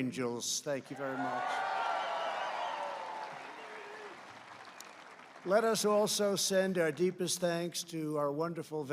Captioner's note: applause